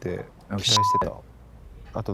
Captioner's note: beep